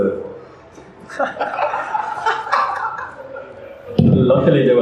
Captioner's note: hahaha